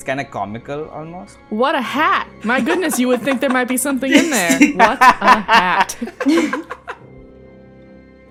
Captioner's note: laughter